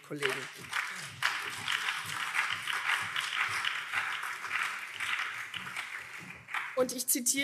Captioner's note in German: Beifall CDU, vereinzelt SPD und BÜNDNIS 90/DIE GRÜNEN